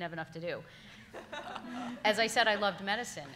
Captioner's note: all laughing